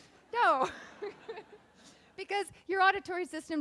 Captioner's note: laughing